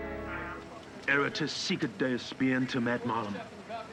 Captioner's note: speaking latin